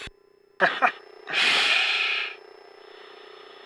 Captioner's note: laughs